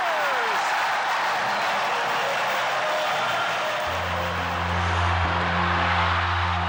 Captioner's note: crowd cheers